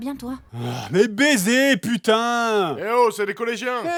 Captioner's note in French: soupire